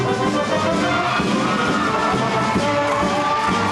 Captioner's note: crowd cheering and clapping